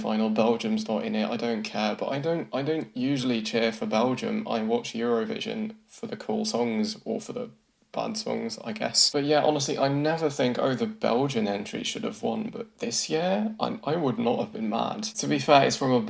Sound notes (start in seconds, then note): none